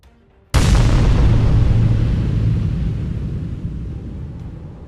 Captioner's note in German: mächtiger Sound